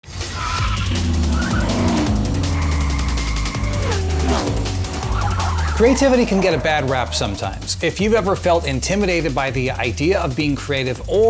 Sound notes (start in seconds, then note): 0.0 car engines revving; 0.7 upbeat music